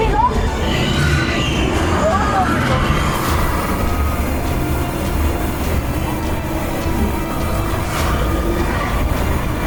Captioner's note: FX - DINOSAURS SCREECHING and CHASING; TRUCK REVVING and CRASHING THROUGH JUNGLE